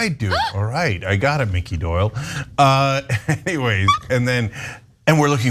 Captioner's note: laugh